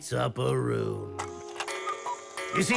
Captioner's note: cuckoo clock chimes